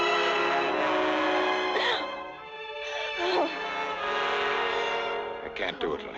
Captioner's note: whimpering